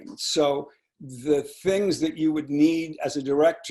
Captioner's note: none